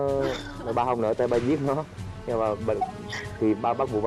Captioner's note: laughing